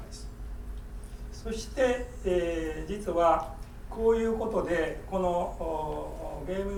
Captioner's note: speaking in foreign language